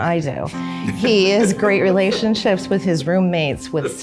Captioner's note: chuckles